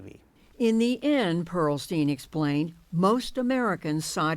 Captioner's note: voice-over